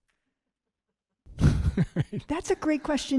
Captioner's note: laughing